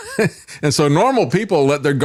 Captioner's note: laughs